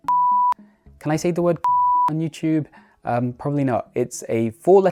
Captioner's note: beep